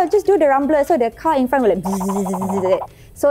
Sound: vibrate

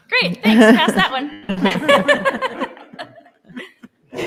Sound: laughing

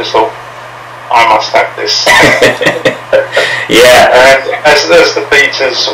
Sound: laughs

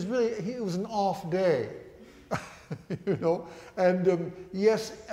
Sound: laughs

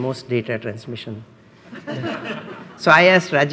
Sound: laughs

